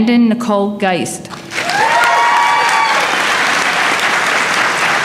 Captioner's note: applause